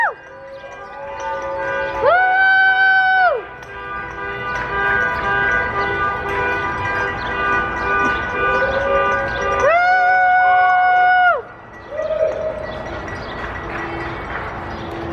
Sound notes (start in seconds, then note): 0.0 cheering